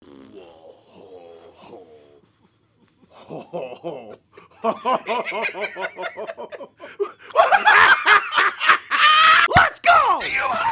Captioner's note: laughing